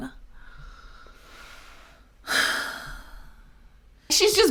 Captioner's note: exhales deeply